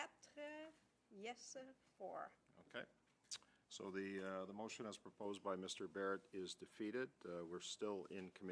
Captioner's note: speaking French